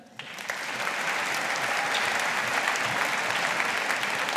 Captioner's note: audience applauding